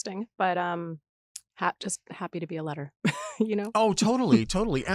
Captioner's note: laughs